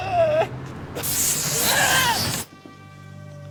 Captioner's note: exclaiming